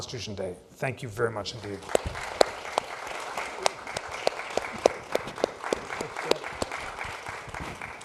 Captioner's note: applause